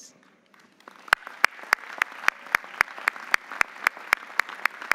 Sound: audience applauding

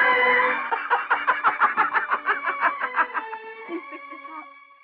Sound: laughing

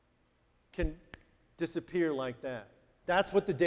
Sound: snaps fingers

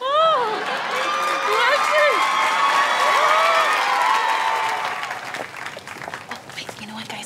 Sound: cheering

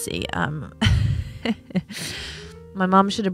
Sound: giggles

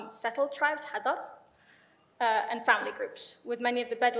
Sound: speaks in foreign language

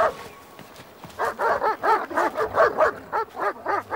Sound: barking

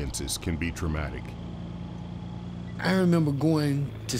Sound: car engine running

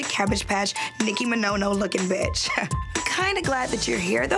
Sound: laughs

